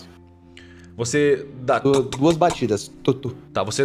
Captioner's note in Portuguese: toc toc toc